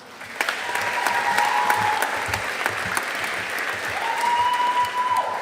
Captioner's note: audience applauding